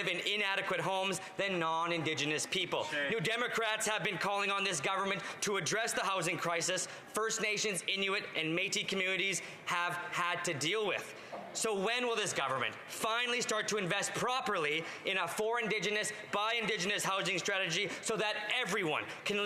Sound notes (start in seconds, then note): none